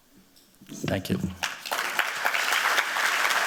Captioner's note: applause